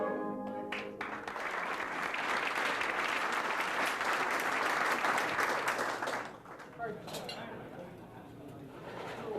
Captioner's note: applause